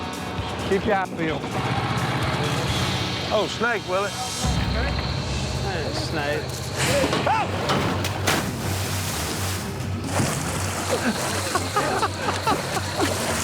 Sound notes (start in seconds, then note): 6.9 shouts; 9.2 laughing